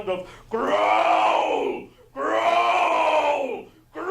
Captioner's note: loud growling